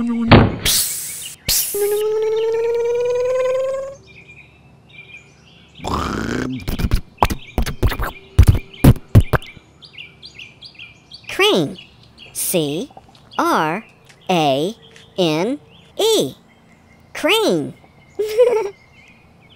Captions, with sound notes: [ slam] [ hiss] [ crane motor] [ tractor sputtering] crane C-R-A-N-E crane [ giggles]